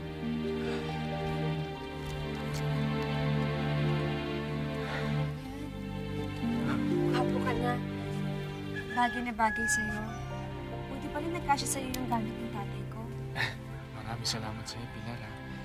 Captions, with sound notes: [exhales] There. Now you’re handsome. It suits you. It’s a good thing my father’s things fit you. [soft chuckles] Thank you very much, Pilar.